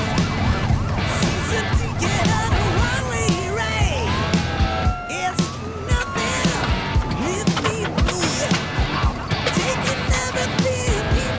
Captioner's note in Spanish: Sirenas